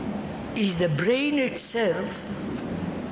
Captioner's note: noise of aeroplane